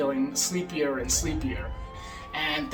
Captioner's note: sirens blaring